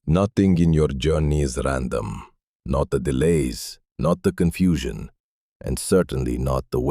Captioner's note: thoughtful